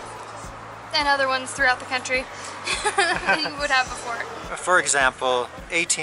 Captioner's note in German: Gelächter